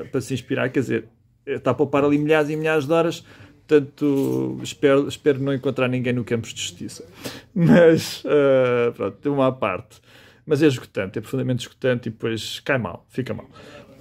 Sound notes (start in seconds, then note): 7.6 laughs